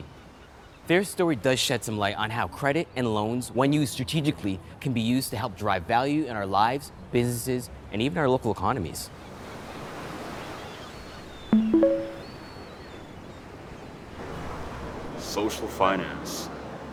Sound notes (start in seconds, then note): 11.5 chiming